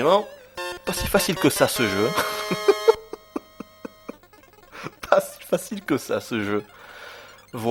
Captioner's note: laughs